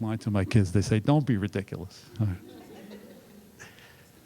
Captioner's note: laughter